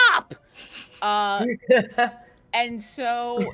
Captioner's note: chuckles